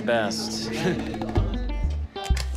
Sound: chuckles

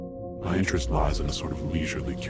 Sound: low Voice

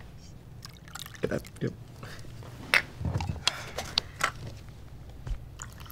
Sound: whiskey pouring

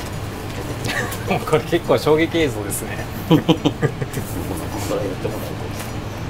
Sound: laughs

